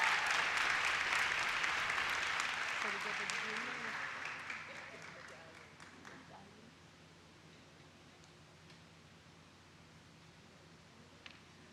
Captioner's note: applause